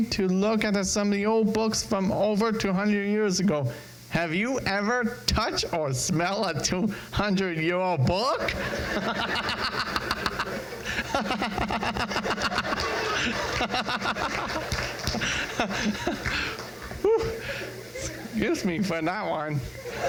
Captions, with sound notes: to look at some of the old books from over 200 years ago. Have you ever touch or smell a 200 year old book? (crowd laughs) (laughs) Excuse me for that one.